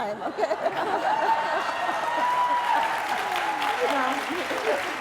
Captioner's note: applause